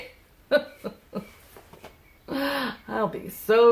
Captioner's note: laughs